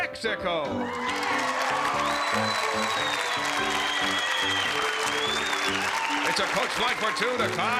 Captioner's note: applause and cheering